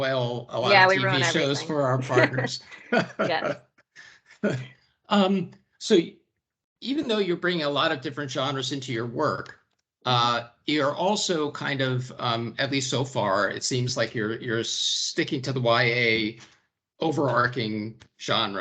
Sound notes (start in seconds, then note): 2.4 laughter